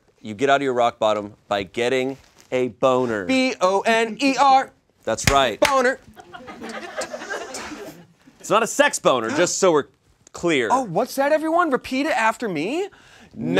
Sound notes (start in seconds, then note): 5.6 claps; 6.1 audience laughs